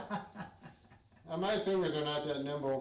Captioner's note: laughs